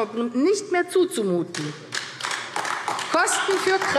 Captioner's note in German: Beifall AfD